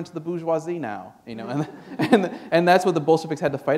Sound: laughter

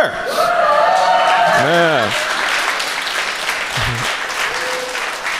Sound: audience applauds

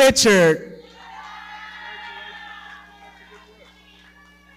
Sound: audience cheering

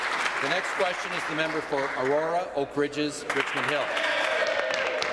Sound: applause

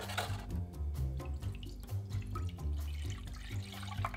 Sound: liquid pouring

